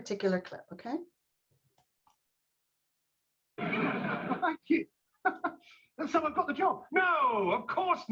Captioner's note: laughter